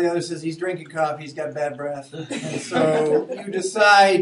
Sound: students laughing

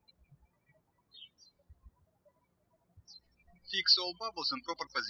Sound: birds chirping

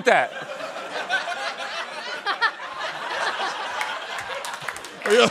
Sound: chuckling; clapping

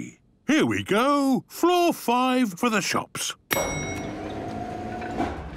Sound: elevator dinging

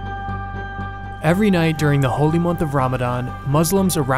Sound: voiceover

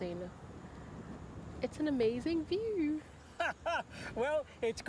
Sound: laughs

